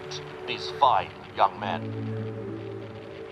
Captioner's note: radio static fades out